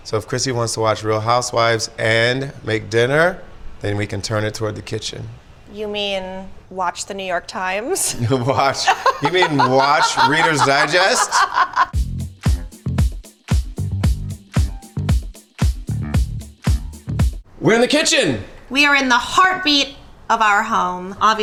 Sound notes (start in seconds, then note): 8.1 laughs; 11.9 upbeat pop music